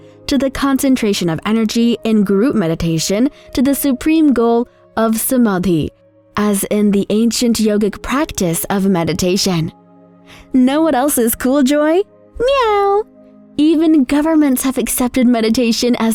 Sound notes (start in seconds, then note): 13.0 meows